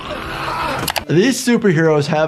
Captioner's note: keys clack